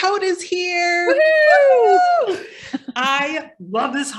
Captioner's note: both cheering